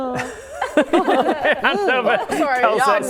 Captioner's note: laughing